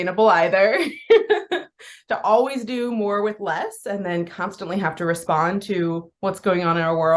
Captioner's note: laughs